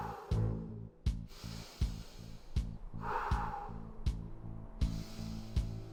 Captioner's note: wind whistles